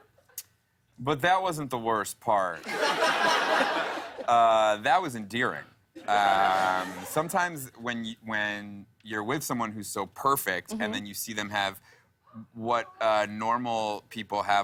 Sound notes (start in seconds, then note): 2.6 laughter